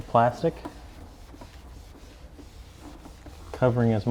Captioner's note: scratching